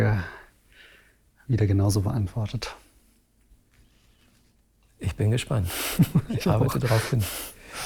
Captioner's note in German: lacht